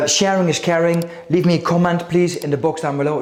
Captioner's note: mouse clicking